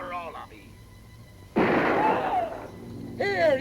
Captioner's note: gun fires; screaming